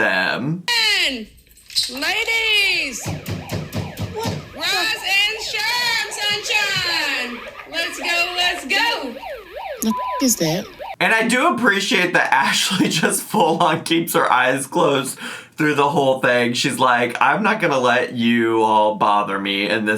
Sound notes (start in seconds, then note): 3.0 pounds door; 9.6 beep; 9.8 siren blaring